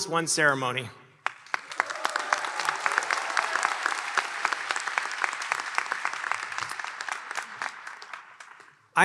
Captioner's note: applause